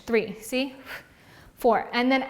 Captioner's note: exhales loudly